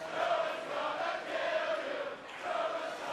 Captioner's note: fans chanting